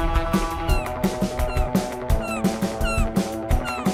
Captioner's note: gulls squawking